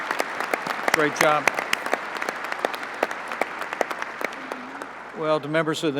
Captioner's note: applause